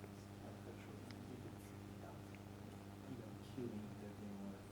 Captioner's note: man speaks softly